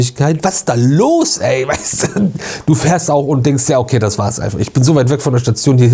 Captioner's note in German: gelächter